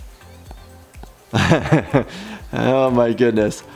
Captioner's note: upbeat music continues; laughing